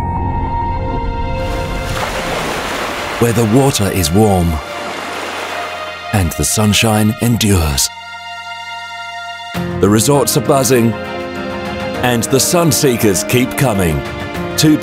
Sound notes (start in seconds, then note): 1.3 water swooshing; 8.1 mysterious music